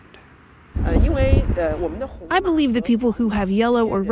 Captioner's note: speaking foreign language